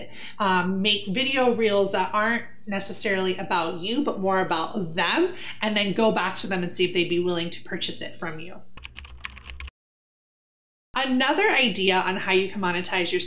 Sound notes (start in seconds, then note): 8.7 keyboard clicking